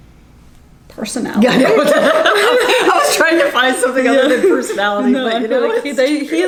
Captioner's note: laughs